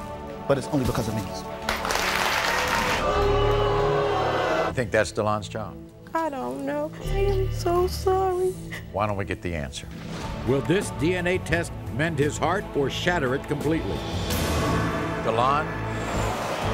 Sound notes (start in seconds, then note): 1.5 audience clapping; 2.4 audience booing